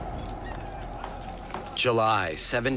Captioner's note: seagull caws